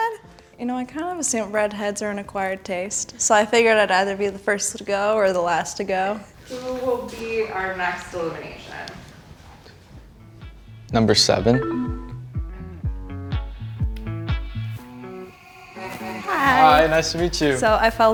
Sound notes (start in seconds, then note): 11.8 low tone chimes; 13.3 guitar music